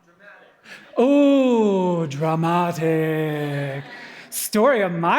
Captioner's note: dramatic Voice